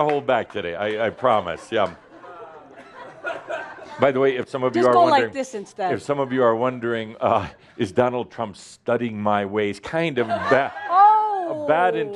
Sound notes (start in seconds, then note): 0.0 some applause; 1.2 laughter